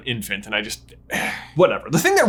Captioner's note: sighs